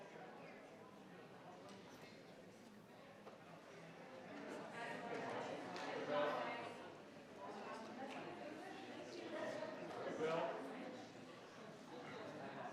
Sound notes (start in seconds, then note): 6.1 crowd chattering